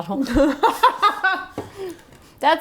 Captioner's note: laughing